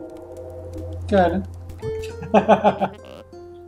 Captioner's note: laughs